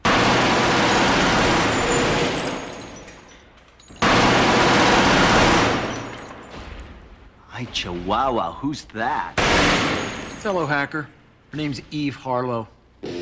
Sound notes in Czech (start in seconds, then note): 0.0 rychlá střelba; 4.8 střelba pokračuje